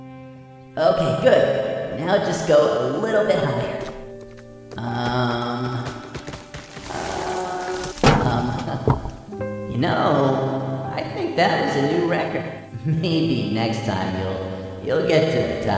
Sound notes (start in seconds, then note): 2.8 leaves rustling; 7.4 laughing; 7.7 body thumping; 8.1 branch thumping